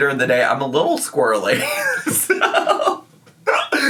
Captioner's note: laughs